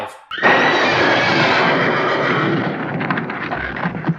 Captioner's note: spooky horse noise